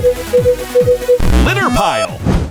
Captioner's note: beeping